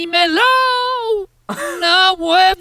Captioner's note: light laugh